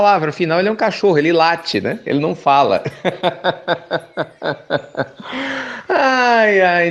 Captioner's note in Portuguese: Risos